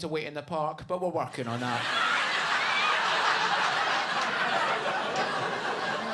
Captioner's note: audience laughing